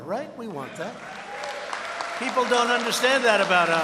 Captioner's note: applause